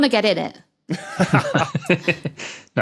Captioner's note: laugh